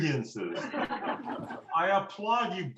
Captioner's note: laughter